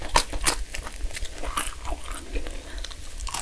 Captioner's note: crunchy